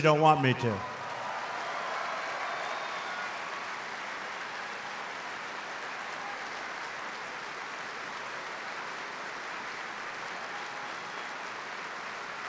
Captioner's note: applause